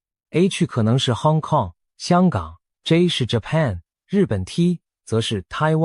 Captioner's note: Korean